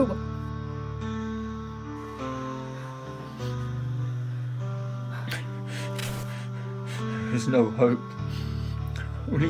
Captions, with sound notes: (somber music continues) (Alan crying) - There's no hope, only hunger.